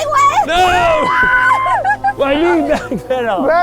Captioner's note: screaming